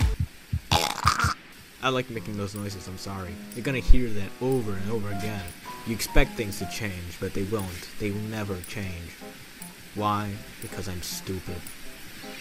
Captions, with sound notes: *Chocks on chicken bone* I like making those noises I'm sorry You're going to hear that over and over again You expect things to change, but the won't, they will never change Why? because I'm stupid